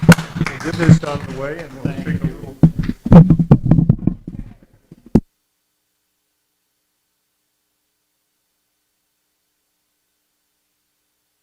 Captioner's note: applause